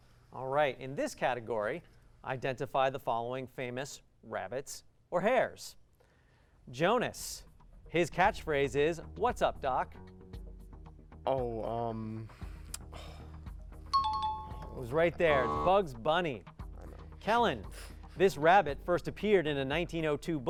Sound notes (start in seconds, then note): 13.9 timer